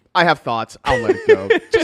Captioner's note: laughs